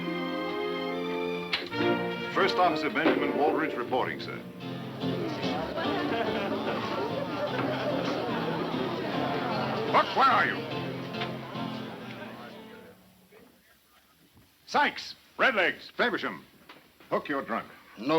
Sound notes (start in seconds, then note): 1.6 adventurous music; 5.0 lively music; 5.0 people chattering